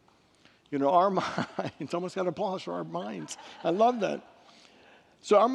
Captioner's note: laughs